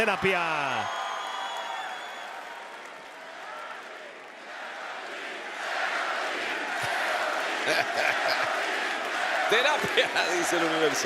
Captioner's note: applause; laugh